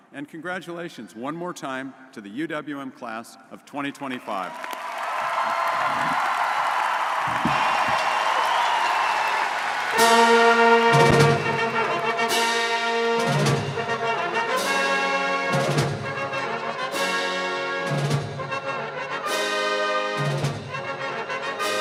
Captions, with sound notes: And congratulations one more time to the UWM class of 2025. (audience cheering and applauding) (band music)